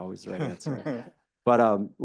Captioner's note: all giggling